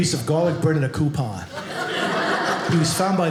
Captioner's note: audience laughing